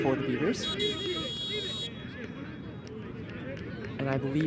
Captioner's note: whistle blows